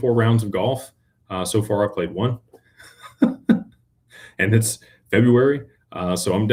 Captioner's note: laughter